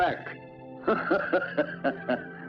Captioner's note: laughter